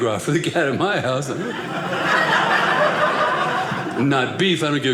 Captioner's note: audience laughing